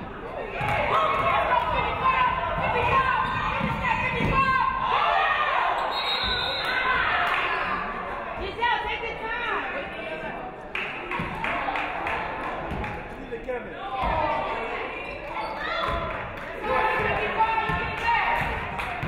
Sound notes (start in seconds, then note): 0.9 audience cheering; 5.8 referee whistles